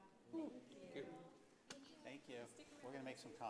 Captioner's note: in Unison